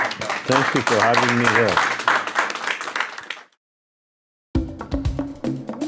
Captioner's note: audience clapping; upbeat music